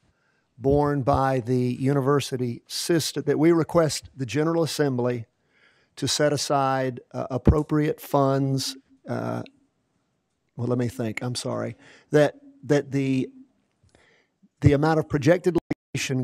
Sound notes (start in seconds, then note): none